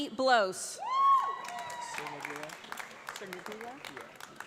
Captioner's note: audience applauds